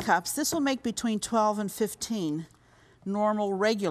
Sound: none

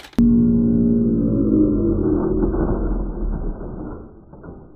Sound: slow motion rumbling

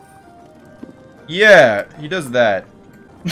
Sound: laughs

